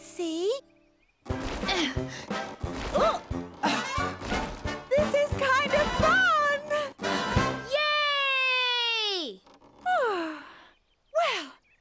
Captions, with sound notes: This is kind of fun! Yay! (Sighing) Well. I wanted to do something different today, and that was just the ticket!